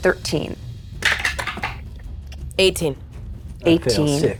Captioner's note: dice rattling